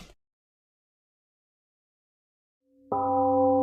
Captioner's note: temple gong rings and fades